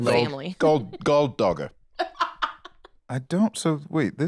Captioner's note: laughs